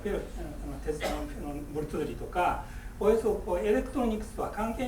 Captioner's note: speaking in foreign language; coughing